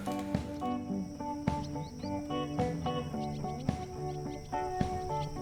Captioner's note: birds chirping